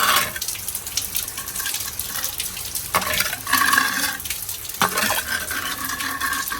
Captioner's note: a metal scoop scrapes against pavers